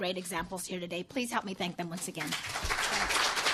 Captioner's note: applause